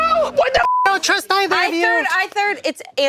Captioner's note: beep